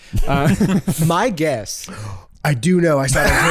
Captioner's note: gasps